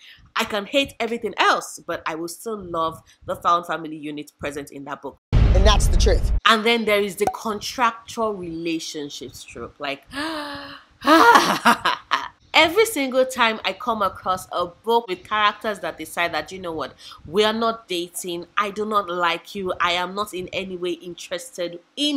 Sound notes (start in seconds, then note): 11.0 laughs